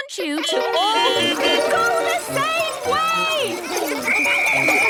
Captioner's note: beeping; whistle blowing